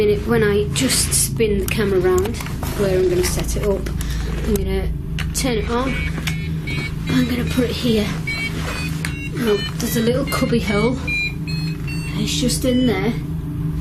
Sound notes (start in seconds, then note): 6.5 beeping